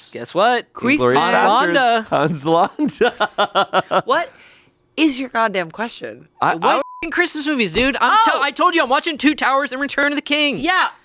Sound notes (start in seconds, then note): 2.9 laughs; 6.8 beep